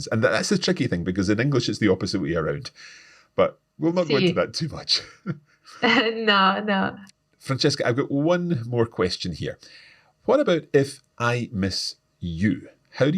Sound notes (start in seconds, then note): 3.9 laughs